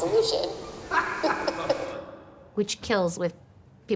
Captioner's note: laughing